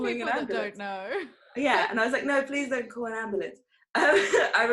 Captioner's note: laughter